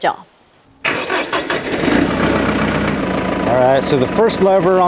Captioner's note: engine starts